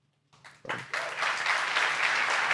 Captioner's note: applause